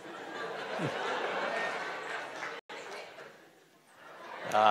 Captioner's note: audience laughing